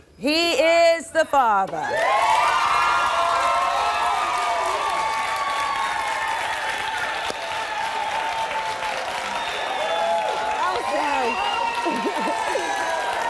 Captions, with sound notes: - He is the father. (applause)